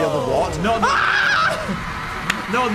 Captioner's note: screeching